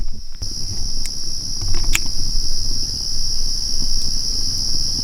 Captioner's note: insects buzzing